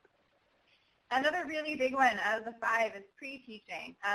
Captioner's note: voiceover